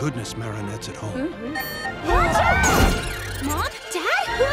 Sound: alarm

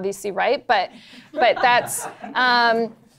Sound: laughter

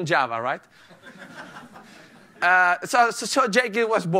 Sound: laughter

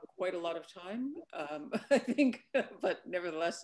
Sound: laughs

